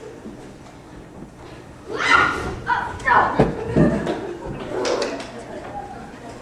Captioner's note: Lane dramatically shrieking